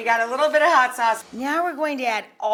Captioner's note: screen whooshing